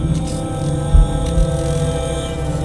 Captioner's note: electricity